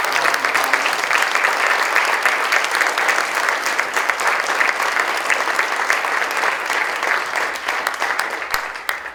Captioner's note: applause